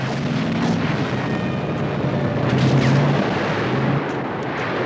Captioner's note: gunfire